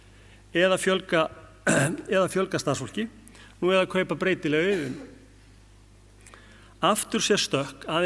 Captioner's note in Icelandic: ræskir sig